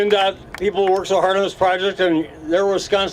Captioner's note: applause